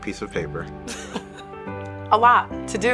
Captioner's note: laughs